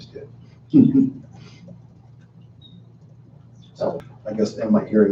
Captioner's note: chuckling